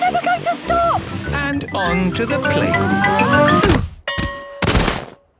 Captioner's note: exclaiming and grunting; bell ringing